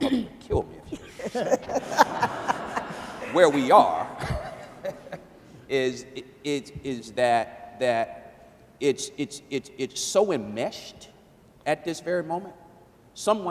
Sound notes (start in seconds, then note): 0.9 laughing; 5.9 stammering